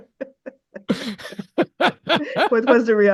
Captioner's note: laughs